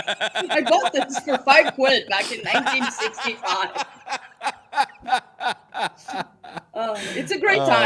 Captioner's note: laughter